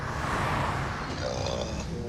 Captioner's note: grumbles